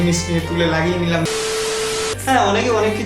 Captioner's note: Glitch